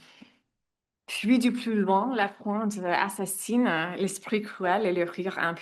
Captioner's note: speaks in French